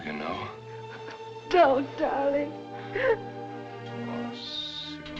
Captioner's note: sobs